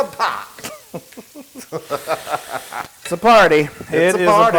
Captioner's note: laugh